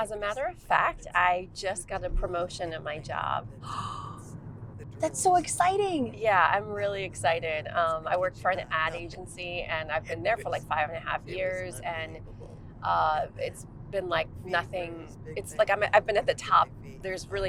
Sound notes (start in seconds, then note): 3.7 Georgia gasps